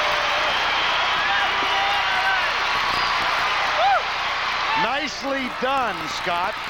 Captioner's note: applause